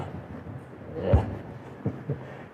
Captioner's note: laughs